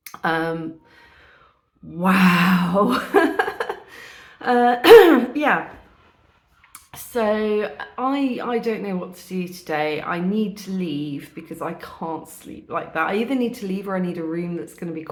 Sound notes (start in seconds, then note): 2.8 laughing; 4.8 clears throat